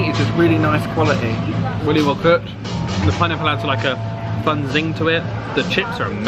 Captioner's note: none